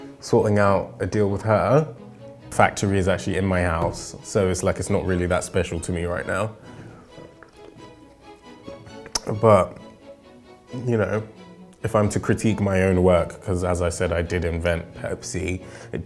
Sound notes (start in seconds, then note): none